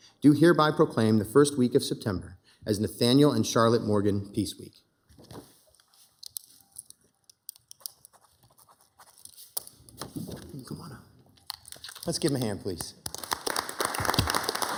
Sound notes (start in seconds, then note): 7.7 pen scribbling; 12.8 members and attendees applauding